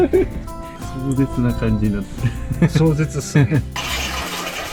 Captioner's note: laugh